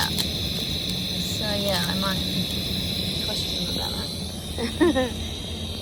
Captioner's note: laughs